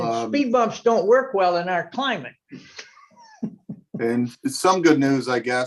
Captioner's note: giggles